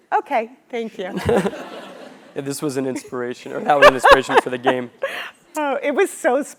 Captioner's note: laugh